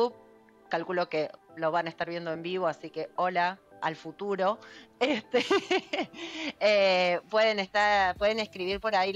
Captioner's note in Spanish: risas